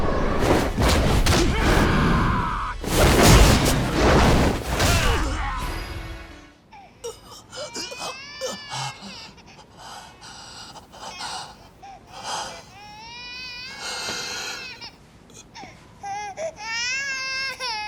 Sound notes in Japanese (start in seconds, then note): 1.3 叫び声; 4.7 うめき声; 12.7 泣き声